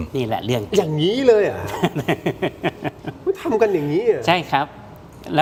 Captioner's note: laughs